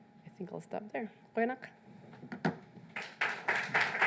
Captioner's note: speaks in foreign language; audience clapping